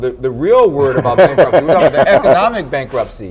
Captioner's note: all laughing